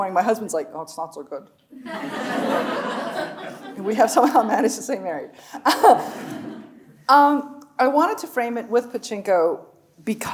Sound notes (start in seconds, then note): 1.8 audience laughing; 7.0 chuckles